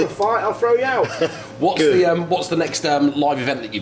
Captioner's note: laughing